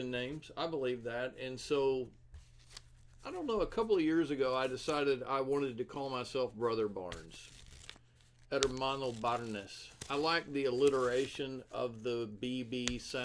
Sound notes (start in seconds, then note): 8.6 sticky note sounds in background